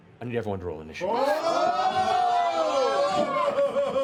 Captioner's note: yelling